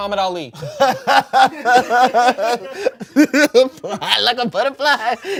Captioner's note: everyone laughs